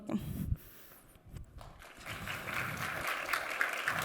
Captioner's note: applause